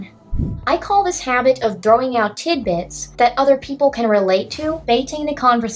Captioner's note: swoosh